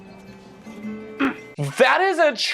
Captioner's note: gross pubescent horny grunt